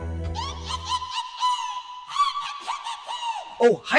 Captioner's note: high-screeching laughter